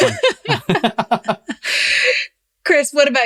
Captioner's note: laughs